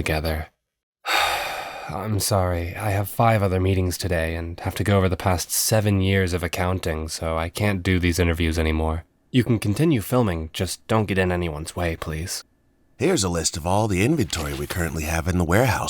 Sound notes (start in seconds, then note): 1.0 sigh